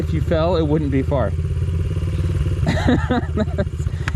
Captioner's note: laughs